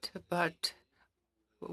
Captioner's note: speaking French